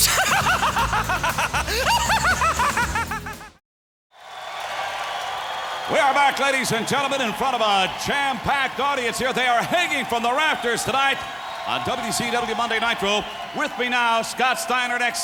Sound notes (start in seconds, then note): 0.0 cackles; 4.5 audience cheering